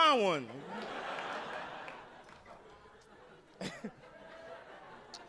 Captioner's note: audience laughing